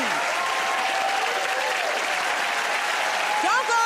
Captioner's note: cheers and applause